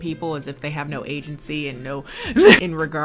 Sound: laughs

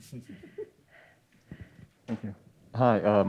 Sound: panelists chuckle

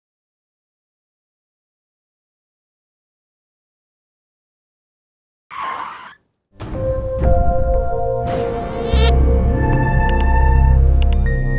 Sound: silence

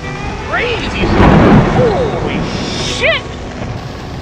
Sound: thunder

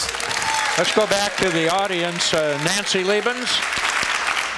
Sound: applause, cheers; cheers, applause

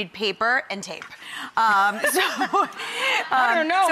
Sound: laughing

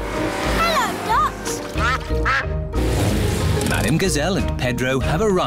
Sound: quacking

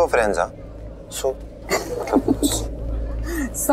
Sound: Poonam laughs

